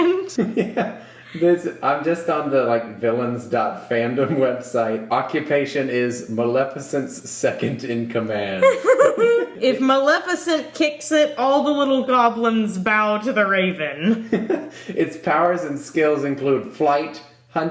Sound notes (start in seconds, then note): 0.0 giggling; 8.6 giggling